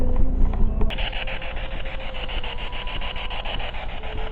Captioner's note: static buzzing